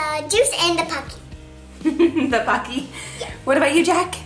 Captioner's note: laughs